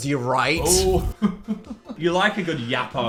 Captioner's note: laughing